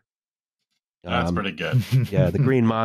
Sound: chuckles

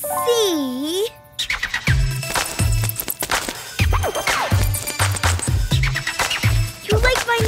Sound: scratching, squeaking

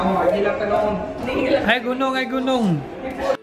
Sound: walking

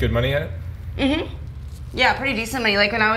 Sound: hums in agreement

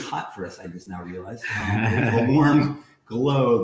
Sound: laughs

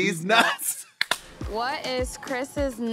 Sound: blonde women clap in unison

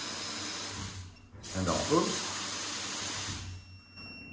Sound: shower turns on. Sound of running water

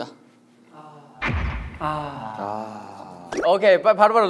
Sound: generous sigh

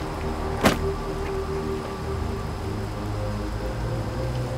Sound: bag thuds

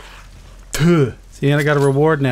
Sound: ptoo

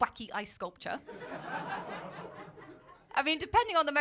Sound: laughter

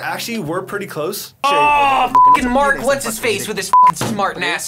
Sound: beep; beep

